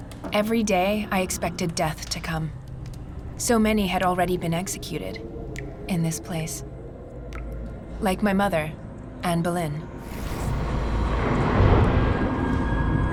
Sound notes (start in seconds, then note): 10.0 wind whistling